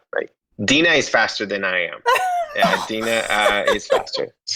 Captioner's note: laughing